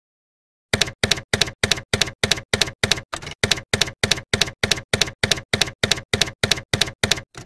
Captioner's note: typewriter keys clacking